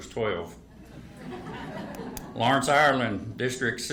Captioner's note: attendees laugh